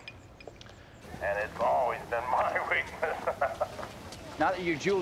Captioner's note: laughs